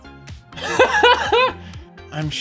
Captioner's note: laughs